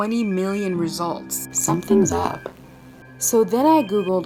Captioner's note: digital voice